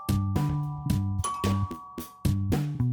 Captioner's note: doorbell again